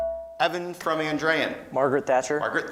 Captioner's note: beeping